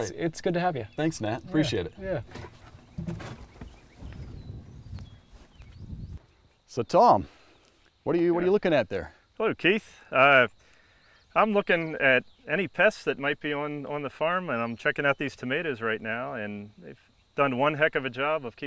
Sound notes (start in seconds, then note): 4.1 birds chirping